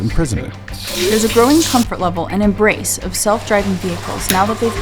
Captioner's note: podcast Voice